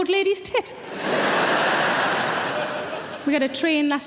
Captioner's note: audience laughing